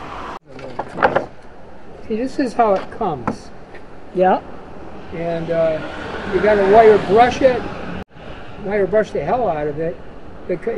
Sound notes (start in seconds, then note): 0.6 wood sound